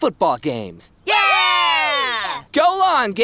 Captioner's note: all going "Yay"